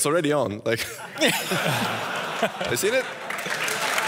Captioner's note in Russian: смех